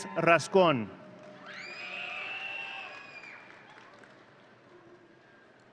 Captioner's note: audience cheering